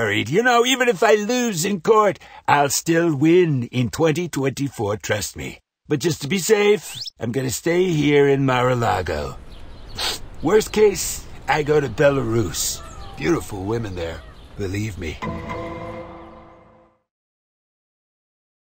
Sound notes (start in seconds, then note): 9.9 sniff